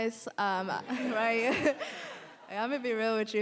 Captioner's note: audience laughing